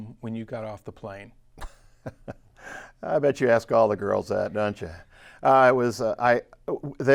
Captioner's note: laughs